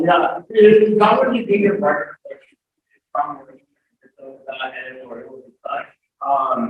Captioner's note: audio breaks